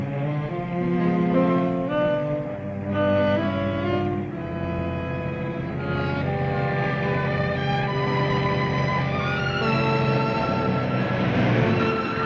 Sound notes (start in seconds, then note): 0.7 dramatic music; 8.4 car engine revving